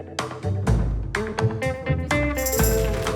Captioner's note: applause